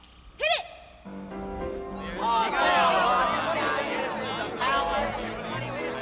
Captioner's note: general chatter